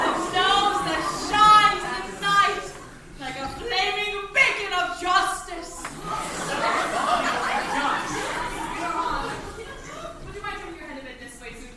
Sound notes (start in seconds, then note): 5.7 crowd murmuring